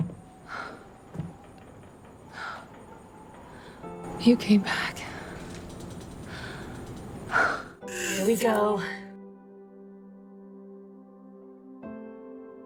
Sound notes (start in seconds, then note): 7.8 Serena exhales